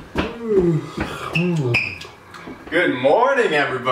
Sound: yawning

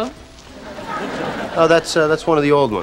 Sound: audience laughing

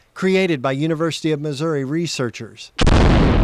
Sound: nats-explosion

